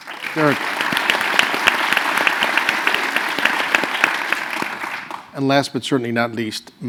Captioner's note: applause